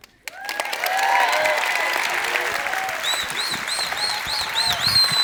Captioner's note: audience clapping